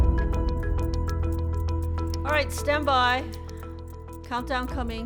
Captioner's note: clock ticking